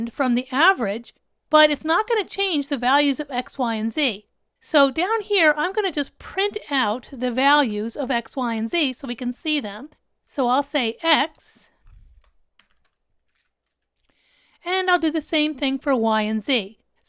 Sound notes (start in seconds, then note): 12.5 keyboard clanking